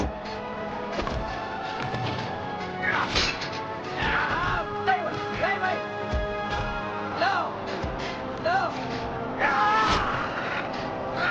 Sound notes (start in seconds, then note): 9.4 groaning in pain